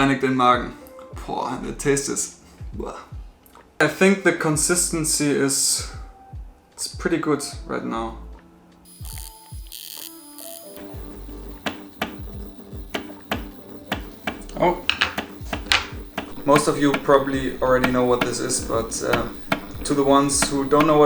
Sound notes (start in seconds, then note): 8.8 sound of Motor clicking